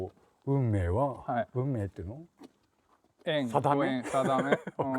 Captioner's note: laugh